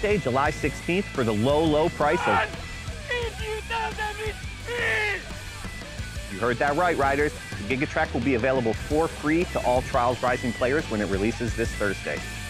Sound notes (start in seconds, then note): 2.4 yelling; 12.0 rock music